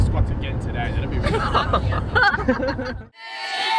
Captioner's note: people laughing